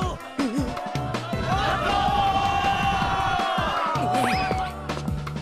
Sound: crowd

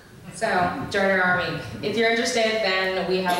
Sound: voiceover

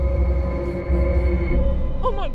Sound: buzzing

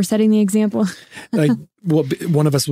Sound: laughing

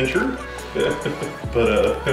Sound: laughs

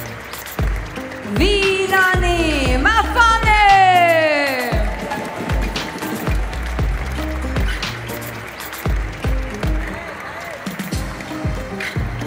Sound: applause; applause

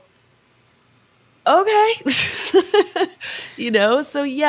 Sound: chuckles

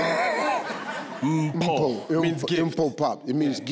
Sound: laughs

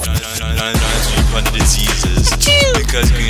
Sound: achoo

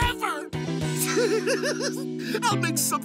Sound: giggling

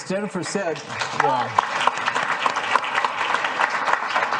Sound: applause

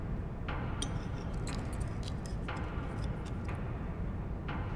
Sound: cutlery noise on plates

